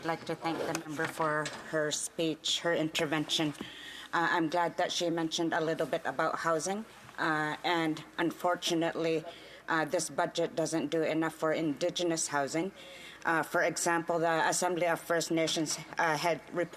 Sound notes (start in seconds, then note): 4.5 speaking indigenous languag